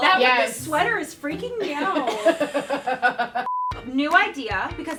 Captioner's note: laughter